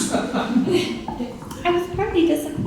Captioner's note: audience laughing